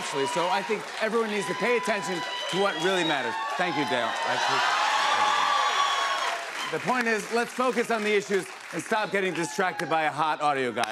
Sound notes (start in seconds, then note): 5.1 cheers and applause